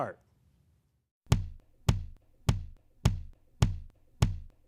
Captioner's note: simulated heart beat sound